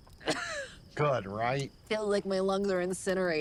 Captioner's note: coughs